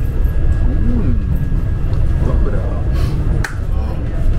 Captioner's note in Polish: sniff